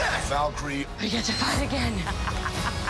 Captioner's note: laughing